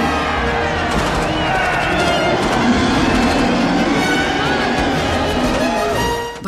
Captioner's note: cheers and gunfire